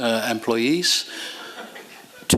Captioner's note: laughter